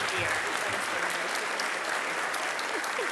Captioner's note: applause